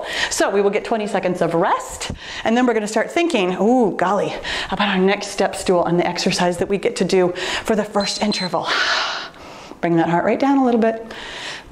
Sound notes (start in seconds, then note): 7.9 timer beeps